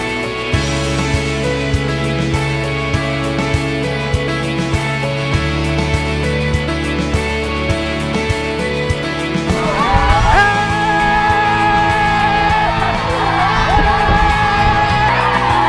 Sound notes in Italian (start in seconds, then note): 9.4 urla felici